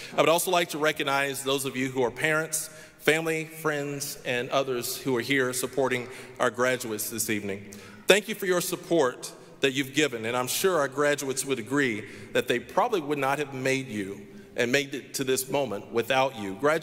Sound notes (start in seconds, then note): none